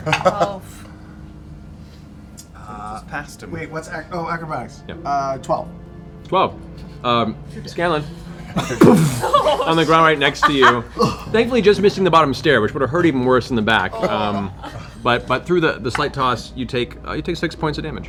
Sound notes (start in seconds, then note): 0.0 laughs; 6.9 boof